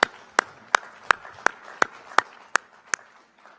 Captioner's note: applause